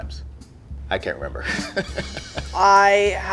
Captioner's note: laughs